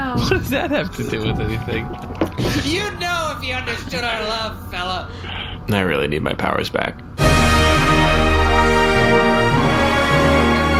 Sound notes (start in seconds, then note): 6.0 quietly; 7.2 outro music